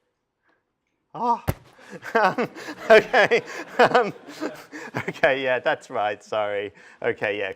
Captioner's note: laughter